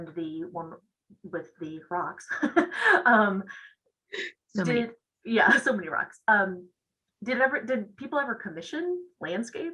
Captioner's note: laughs